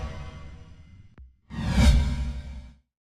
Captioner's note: logo swooshes